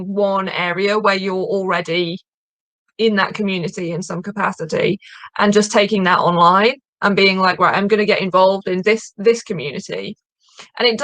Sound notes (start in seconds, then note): none